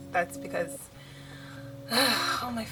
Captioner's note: deep sigh